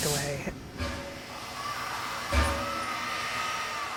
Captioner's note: train chuffing